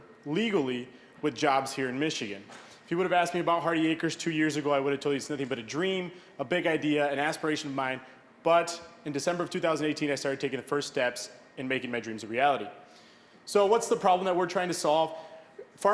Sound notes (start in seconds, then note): none